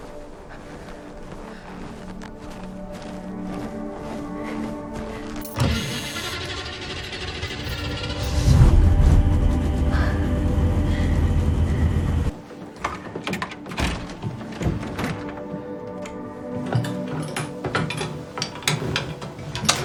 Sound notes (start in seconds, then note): 8.3 the engine revs to life